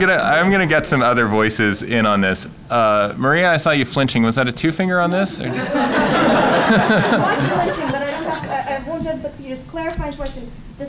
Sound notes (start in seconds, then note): 5.4 laughter